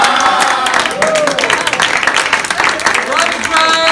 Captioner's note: applause